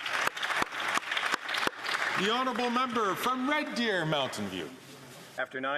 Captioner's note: some Applause